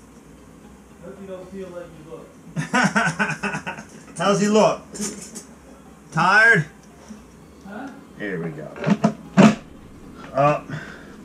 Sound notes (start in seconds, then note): 2.6 laughs